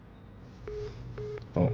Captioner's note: beeping